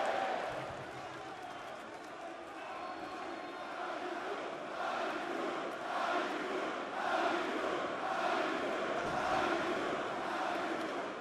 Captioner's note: crowd chatter